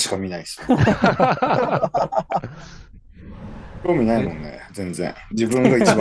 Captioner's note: laughs